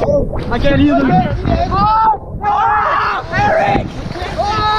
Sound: shouting and splashing

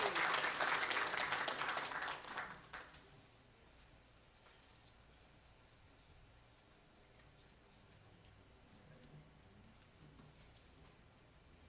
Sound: applause

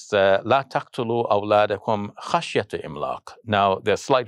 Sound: foreign language

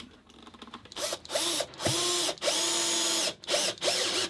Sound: drill buzzing

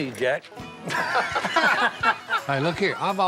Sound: laughter

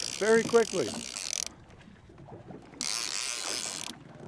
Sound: reel spinning

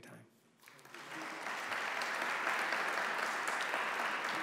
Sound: audience applauding

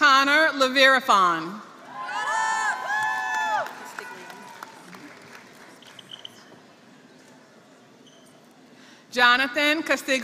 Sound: applause

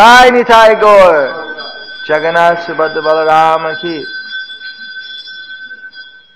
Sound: rings bell from altar

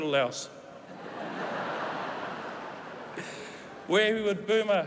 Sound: laughter

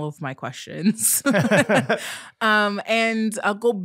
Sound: both laughing

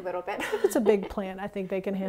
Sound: laugh

